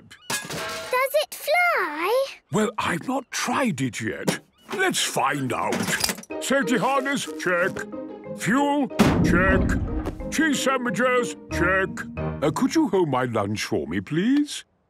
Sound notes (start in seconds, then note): 0.4 distant clanging; 9.0 bangs